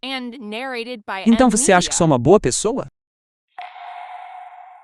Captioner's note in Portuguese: grito